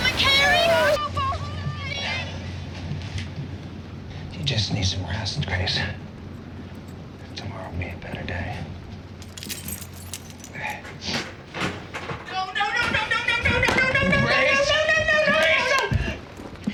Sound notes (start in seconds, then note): 9.2 keys jingling